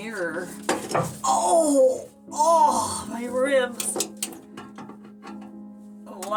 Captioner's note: thunk